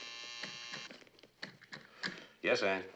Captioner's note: telefon vızıltı